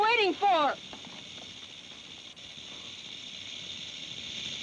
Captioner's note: snake rattles